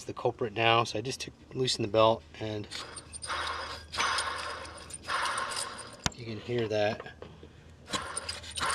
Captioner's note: spins noisy pulley